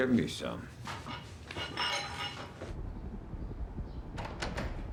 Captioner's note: glasses rattling; door clicks